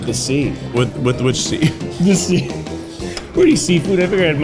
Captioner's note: laughs